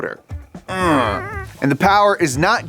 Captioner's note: grunts